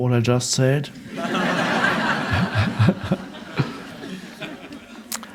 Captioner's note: audience laughing